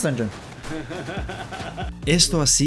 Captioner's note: laughs